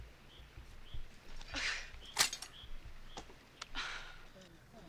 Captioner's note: sighs